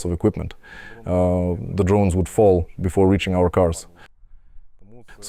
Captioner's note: Russian